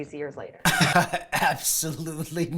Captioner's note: laughter